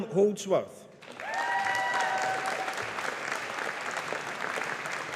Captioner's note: audience applauding